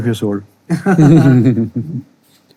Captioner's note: all laughing